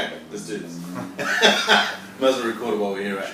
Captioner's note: laughs